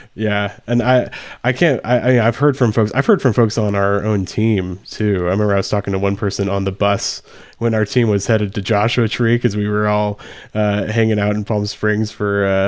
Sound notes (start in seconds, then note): none